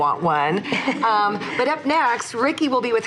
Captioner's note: laughs